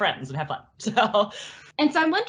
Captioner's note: laughs